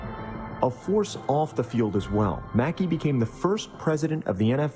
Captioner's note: voiceover